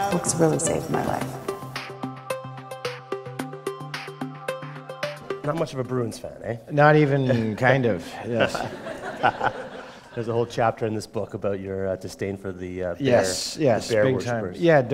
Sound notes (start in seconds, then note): 8.2 laughter